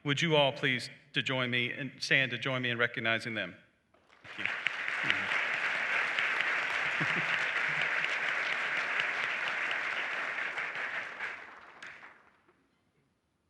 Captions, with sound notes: Would you all please to join me and... stand to join me in recognizing them? [Applause]